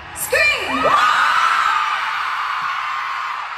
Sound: crowd explodes

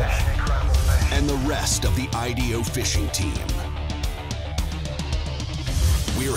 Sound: voiceover; hard rock music

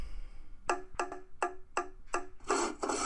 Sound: hammer sound; saw sound

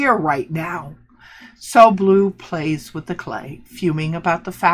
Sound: gasp

